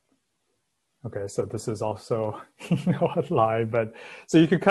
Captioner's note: laughs